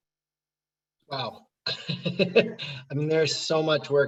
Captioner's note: laughing